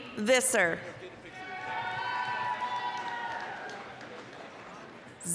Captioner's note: applause, cheering